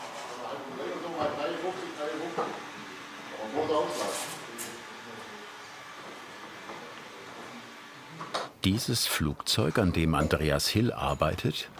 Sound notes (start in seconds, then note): 1.4 overwhelming chatter